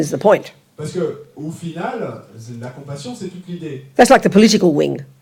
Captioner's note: French